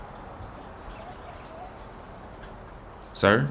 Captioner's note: sounds of wildlife